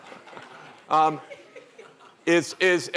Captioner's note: laughter